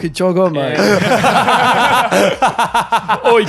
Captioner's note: laughing